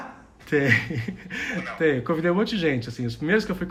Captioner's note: laughs